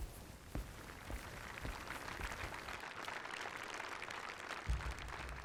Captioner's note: audience applauding